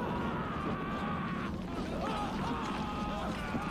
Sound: screaming continues

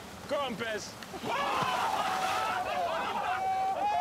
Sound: laughter

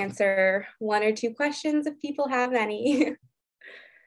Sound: giggles

